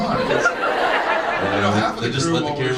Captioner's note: audience laughs